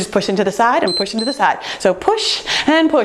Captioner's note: timer beeps